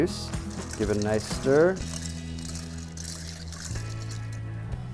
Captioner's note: ice clinks